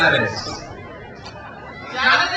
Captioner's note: crowd cheers